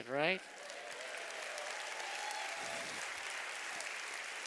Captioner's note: applause